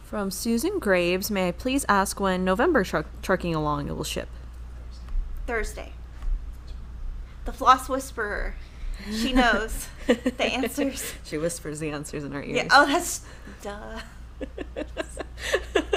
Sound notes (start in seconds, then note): 9.1 laughing; 14.4 laughs